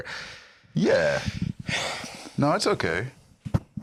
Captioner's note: laughs; sighs